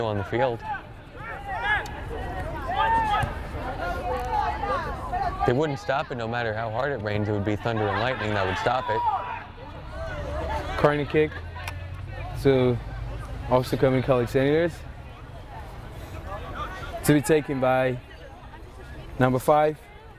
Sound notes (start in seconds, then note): 2.0 players shouting; 10.0 players shouting